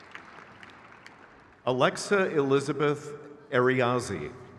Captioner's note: crowd cheers